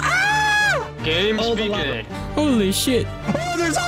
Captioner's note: shouts